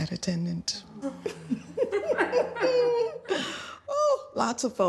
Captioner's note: laughing